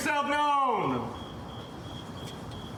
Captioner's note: crickets chirping